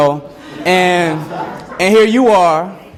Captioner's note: students laugh